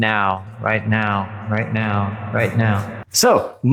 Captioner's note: echoes seductively